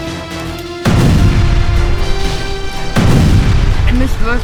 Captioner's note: explosion bang